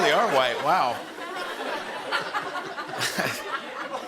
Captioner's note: laughter